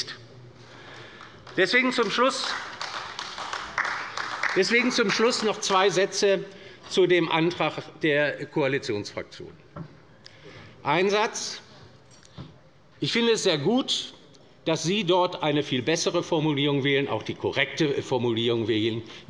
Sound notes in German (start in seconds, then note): 1.0 Beifall bei der LINKEN